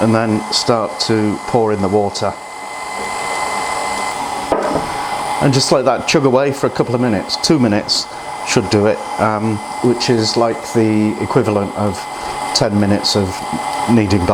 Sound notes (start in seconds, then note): 2.5 chugging noise